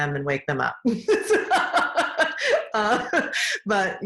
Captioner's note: laughing